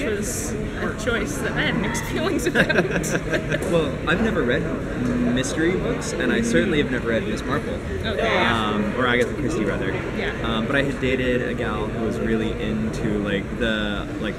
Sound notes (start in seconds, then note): 2.3 laughter